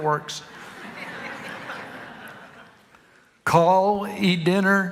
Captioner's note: congregation laughing